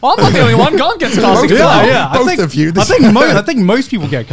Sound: laughing

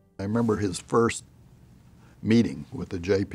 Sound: none

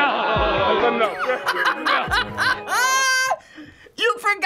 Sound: all laugh; laughs

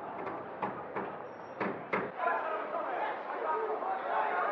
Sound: people chattering

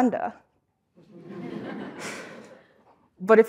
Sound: laugh

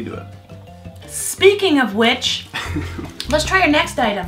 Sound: chuckling

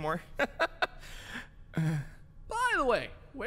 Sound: inhales and sighs

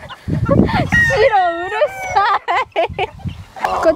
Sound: laugh

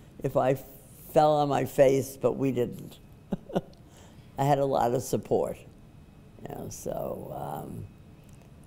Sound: laughs

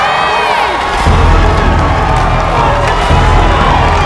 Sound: cheering

